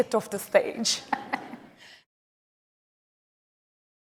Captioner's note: laughs